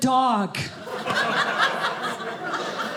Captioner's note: audience laughing